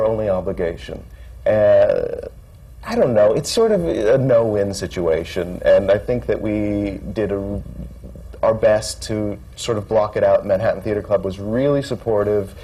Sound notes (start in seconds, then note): none